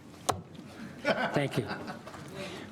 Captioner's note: audience laughing